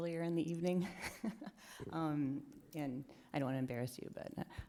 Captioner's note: chuckles